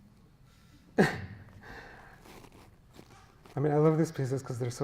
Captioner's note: chuckles